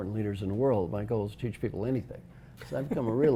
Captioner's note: laugh